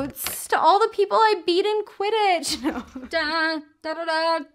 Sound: chuckles

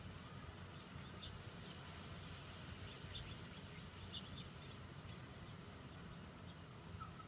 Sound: birds chirping

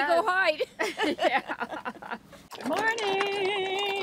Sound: laughing

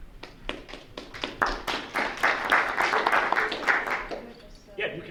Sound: group applauding

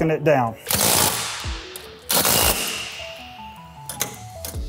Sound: torque wrench buzzing

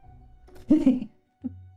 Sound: laughs

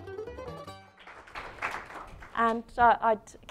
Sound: applause

